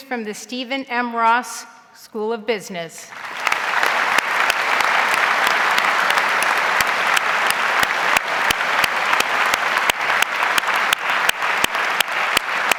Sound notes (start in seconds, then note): 4.1 audience applauds